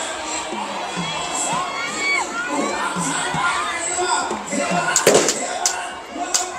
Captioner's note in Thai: ปรบมือ